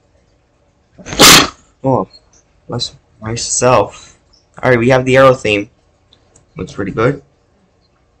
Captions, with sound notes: [Aero Jumpscare/Sneeze] Oh, bless myself. All right we have the aero theme... Looks pretty good...